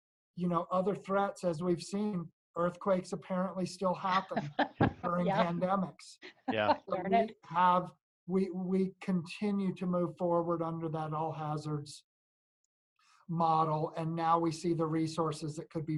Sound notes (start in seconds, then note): 6.4 laughing from all